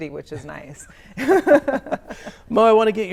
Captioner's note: laughter